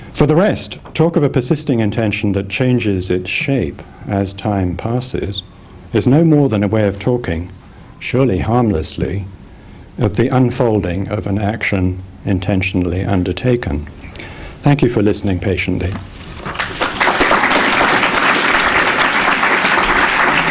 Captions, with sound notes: For the rest, talk of a persisting intention that changes its shape as time passes is no more than a way of talking, surely harmlessly, of the unfolding of an action intentionally undertaken. Thank you for listening patiently. (audience applause)